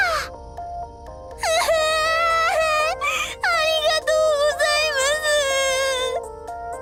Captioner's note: sob